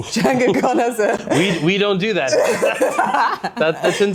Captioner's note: both laughing